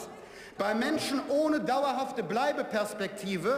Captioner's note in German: none